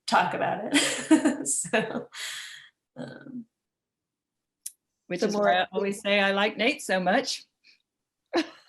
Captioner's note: laughter; laughs; laughs